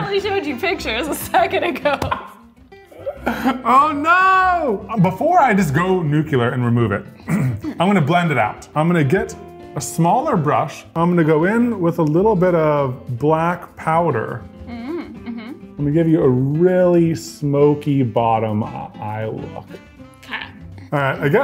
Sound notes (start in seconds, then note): 2.9 laughs